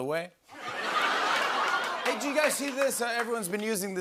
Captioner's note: laughter